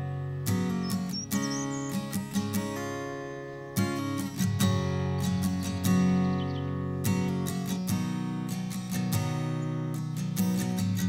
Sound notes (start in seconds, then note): 0.2 melancholic music; 5.0 birdsong